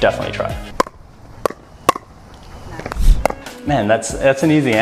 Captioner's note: tennis Sounds